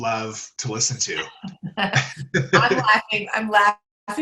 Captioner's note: laughs